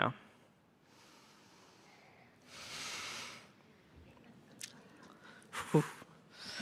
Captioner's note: breathes deeply